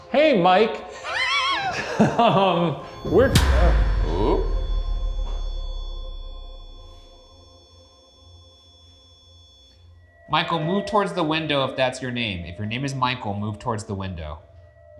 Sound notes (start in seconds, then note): 0.9 laughing; 2.9 REM pod beeping